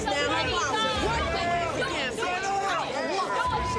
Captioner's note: heated chattering; beep